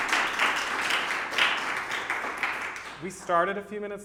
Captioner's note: applause